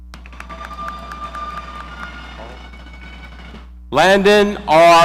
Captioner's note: audience cheering